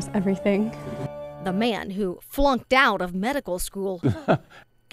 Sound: laughing

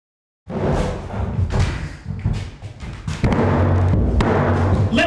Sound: door bangs

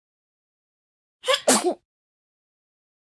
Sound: sound of sneeze

